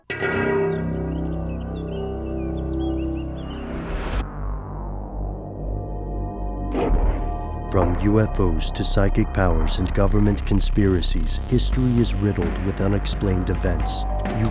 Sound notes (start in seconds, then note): 0.2 ominous music; 7.9 voiceover